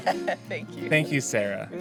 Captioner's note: laughs